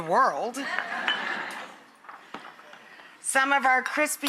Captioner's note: audience laughs